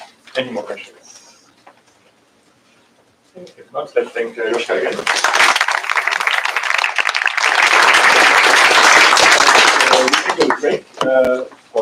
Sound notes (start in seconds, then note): 4.9 applause